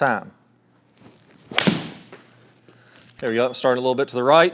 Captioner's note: ball cracking